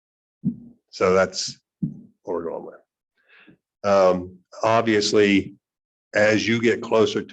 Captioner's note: murmurs